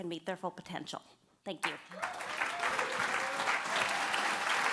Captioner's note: applause